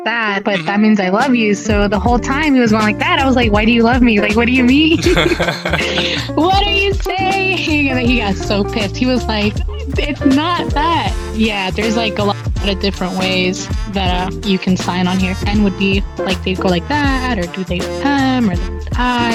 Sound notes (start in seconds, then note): 4.9 both laughing